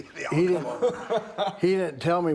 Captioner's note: Bron laughing